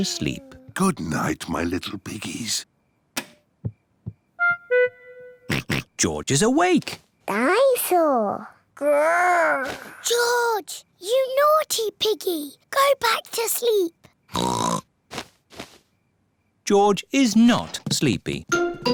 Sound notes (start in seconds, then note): 3.2 light switch clicks; 5.5 oinks; 14.3 oinks